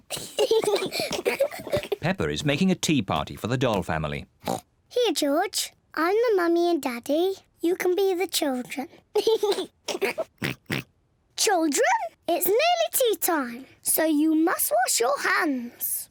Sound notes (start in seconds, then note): 0.1 both giggling; 4.4 oinks; 9.2 giggles and oinks